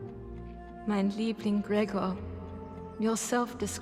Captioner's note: speaks foreign language